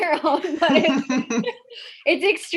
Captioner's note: all laugh